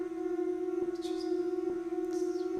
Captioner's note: whispering